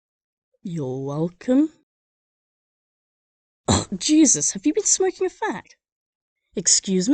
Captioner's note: cough